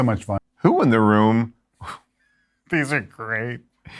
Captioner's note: laughs